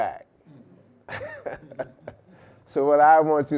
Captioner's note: laughing